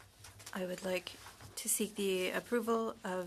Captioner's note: speaking French